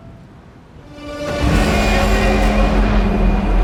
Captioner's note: train roars